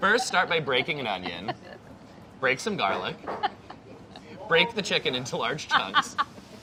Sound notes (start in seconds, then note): 1.9 laughing